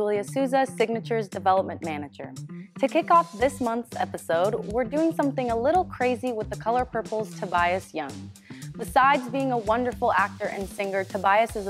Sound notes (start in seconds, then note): none